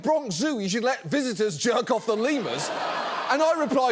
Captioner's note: audience laughs